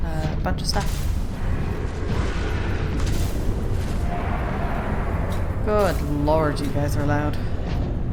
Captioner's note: all the roars